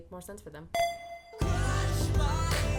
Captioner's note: ding